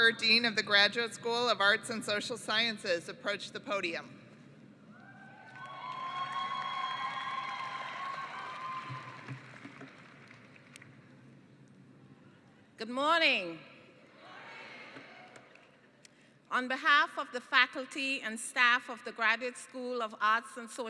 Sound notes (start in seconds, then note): 5.0 cheering and applause